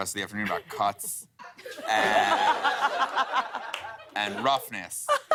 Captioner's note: laughter